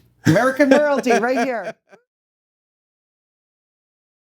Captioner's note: hands clapping; laughing